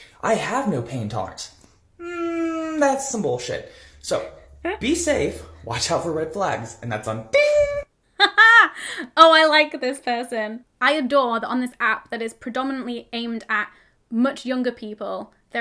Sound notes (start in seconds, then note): 7.0 laughing